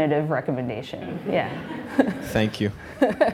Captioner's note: laughing